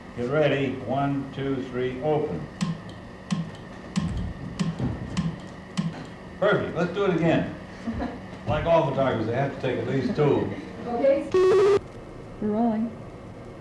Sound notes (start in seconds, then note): 2.6 clicks; 11.3 buzzing/beeping